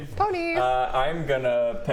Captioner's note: none